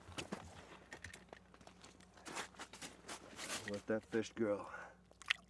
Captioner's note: snow crunching